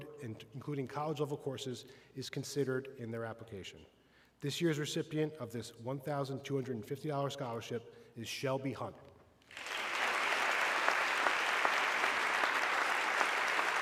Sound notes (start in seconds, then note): 9.4 audience clapping